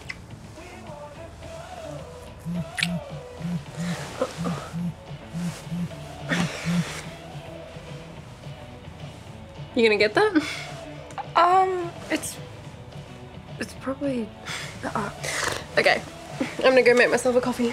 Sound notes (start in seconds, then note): 2.5 phone buzzing